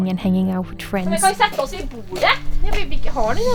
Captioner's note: imitating an accent